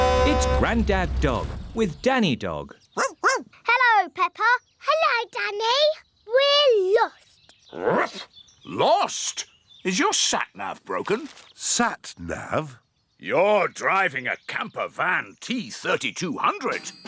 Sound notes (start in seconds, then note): 2.9 barking; 7.1 barks